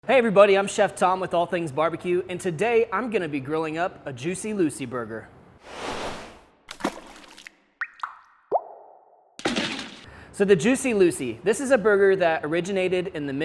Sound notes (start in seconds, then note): 6.6 splash; 8.3 dripping